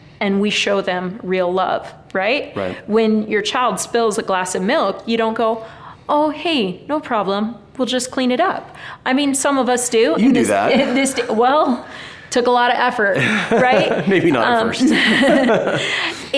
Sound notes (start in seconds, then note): 13.1 laughing; 15.3 both laughing amusingly